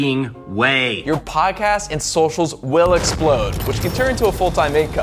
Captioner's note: explodes